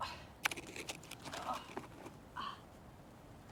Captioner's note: sighs